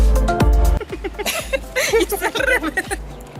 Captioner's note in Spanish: Risas